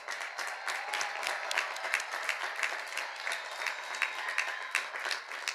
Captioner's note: cheers and applause